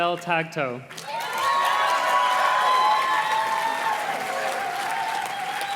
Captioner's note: audience cheers and claps